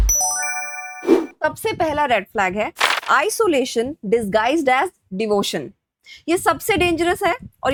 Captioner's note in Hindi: घंटी की आवाज़